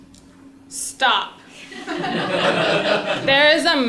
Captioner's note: laugh